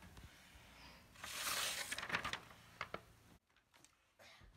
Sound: none

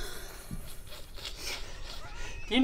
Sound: despairing laughter

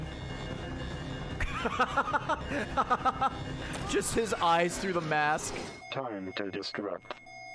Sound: laughs

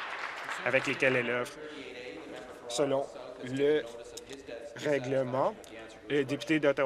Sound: applause

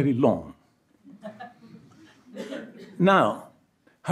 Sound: audience laughs

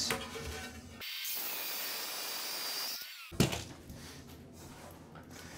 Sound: masonry saw cutting

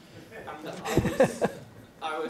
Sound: laughter

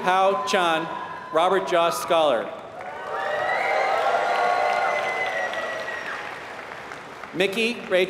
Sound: applause

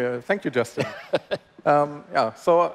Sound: laughs

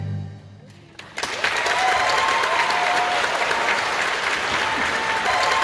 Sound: audience clapping

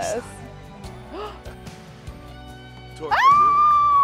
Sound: gasps

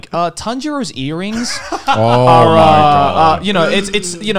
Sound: men laughing

